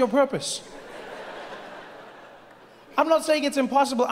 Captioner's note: audience laughing